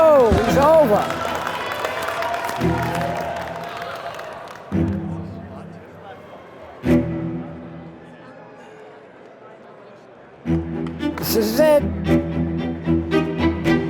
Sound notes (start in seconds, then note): 2.5 clapping